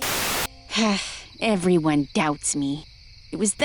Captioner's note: sighs